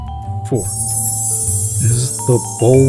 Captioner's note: magic sound